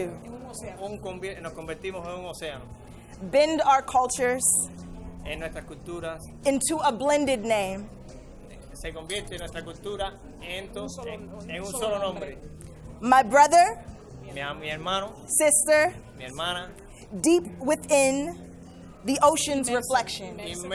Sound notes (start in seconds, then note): 0.2 and interpreter speaking in foreign language; 5.4 interpreter speaking in foreign language; 8.6 and interpreter speaking in foreign language; 14.4 interpreter speaking in foreign language; 16.4 interpreter speaking in foreign language; 20.5 and interpreter speaking in foreign language